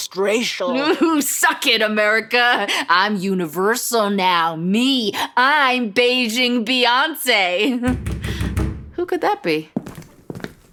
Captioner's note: knocking